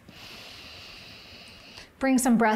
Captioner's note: inhales